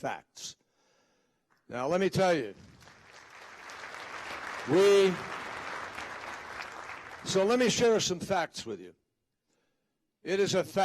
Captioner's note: applause